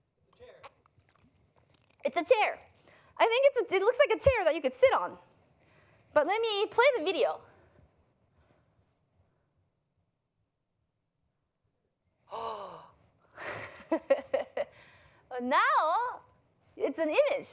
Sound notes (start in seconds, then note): 12.4 gasps; 13.4 chuckles